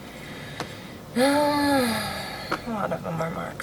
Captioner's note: deep sigh